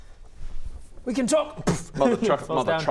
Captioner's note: pff